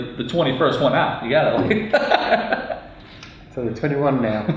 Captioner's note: laughs